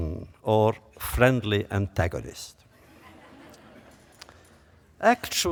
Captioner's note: laughter